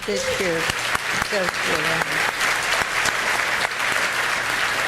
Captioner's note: audience applauding